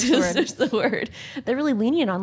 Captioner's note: laughing